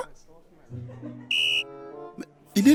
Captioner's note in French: Coup de sifflet